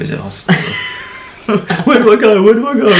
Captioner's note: laughing